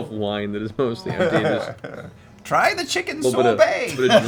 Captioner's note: old-man voice